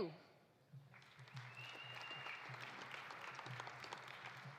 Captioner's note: audience applauding